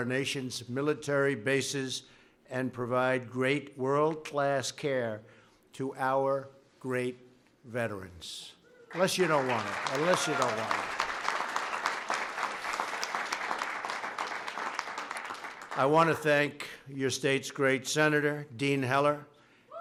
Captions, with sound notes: nation's military bases and provide great world-class care to our great veterans. (Applause.) Unless you don't want it. Unless you don't want it. I want to thank your state's great senator, Dean Heller.